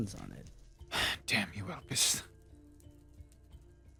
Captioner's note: sigh